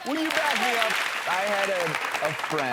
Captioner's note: audience applauding